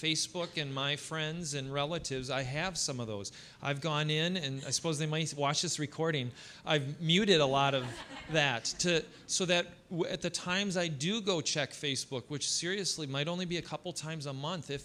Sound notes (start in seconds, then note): 7.5 audience laughing